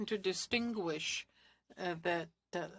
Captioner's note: speaking French